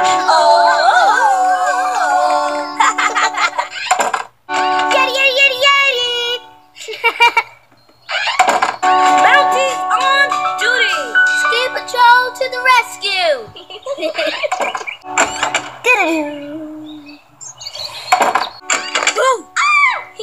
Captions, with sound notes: (Tarzan yell) (laugh) Yeti yeti yeti yeti! (laughs) Mounties on duty! Ski Patrol to the rescue! (laugh) (imitates dramatic tone) Boo! (screams)